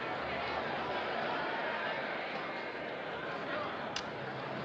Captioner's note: crowd Murmuring